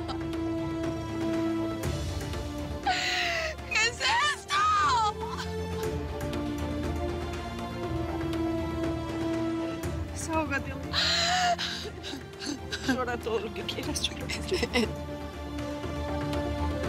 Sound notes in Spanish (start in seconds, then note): 0.0 sollozos; 9.8 llanto